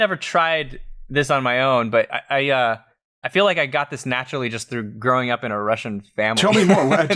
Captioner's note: laughs